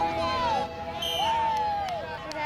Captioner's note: whistle